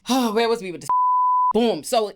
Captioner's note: beep